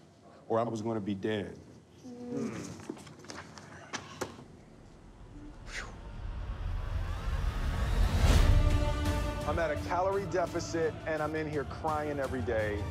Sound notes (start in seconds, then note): 5.3 sighs; 8.4 instrumental music